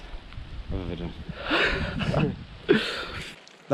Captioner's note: laughs